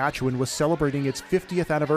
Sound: cheers and applause

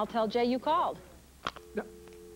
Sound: dial tone

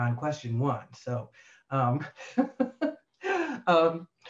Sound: laughs

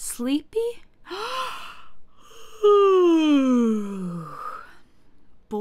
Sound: yawning

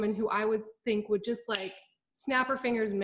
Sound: snaps fingers

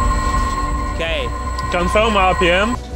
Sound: machine whirring

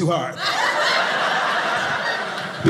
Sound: audience laughing

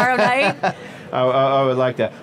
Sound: laughing

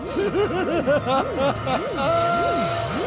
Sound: laughs

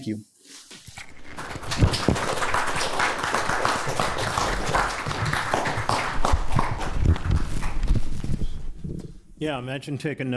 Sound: applause

